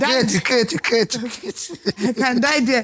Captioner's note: laughs